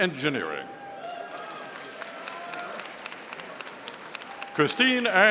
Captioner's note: audience applauding